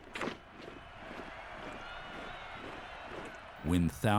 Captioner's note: cheering